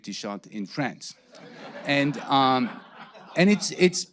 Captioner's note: audience laughing